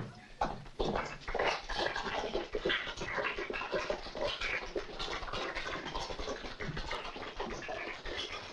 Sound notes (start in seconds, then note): 1.2 sparse applause